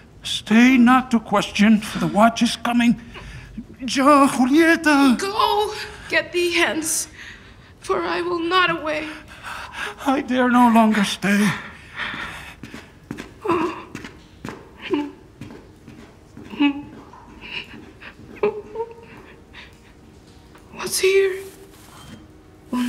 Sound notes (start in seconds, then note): 13.0 footsteps departing; 16.4 Juliet crying; 18.7 soft music